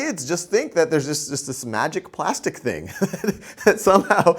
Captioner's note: laughing